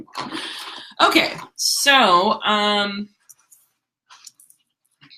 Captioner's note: laughs